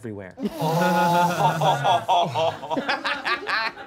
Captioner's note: all laughing